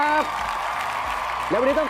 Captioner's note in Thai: เสียงเอฟเฟกต์ปรบมือ